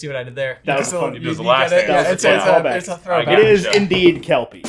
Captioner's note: guys chattering